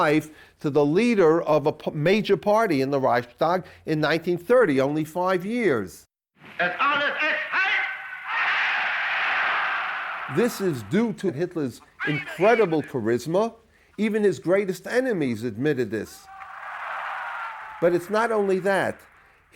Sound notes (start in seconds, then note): 6.8 speaking German